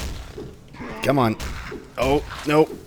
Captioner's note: wailing on each other